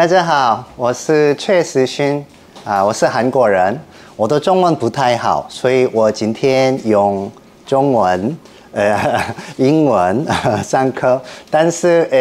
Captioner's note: Mandarin Chinese